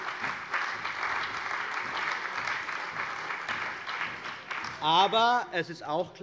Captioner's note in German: Beifall bei der CDU und dem BÜNDNIS 90/DIE GRÜNEN